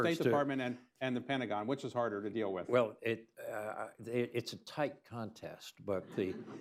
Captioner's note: laughter